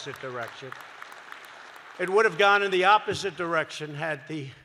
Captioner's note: applause